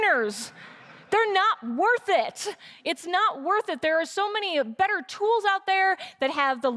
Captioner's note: laughter